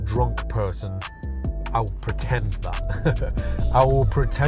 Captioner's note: laughs